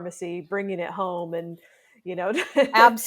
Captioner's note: laughs